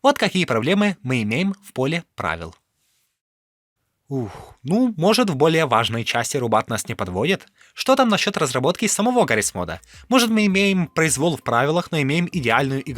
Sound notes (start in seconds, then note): 4.1 sigh